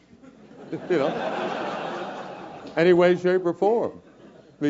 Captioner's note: laugh